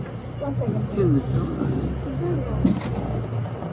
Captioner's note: speaking in foreign language